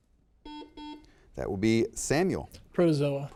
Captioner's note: students whisper; buzzer beeps